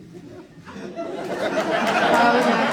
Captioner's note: audience laughs